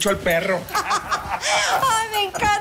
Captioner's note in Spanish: Risas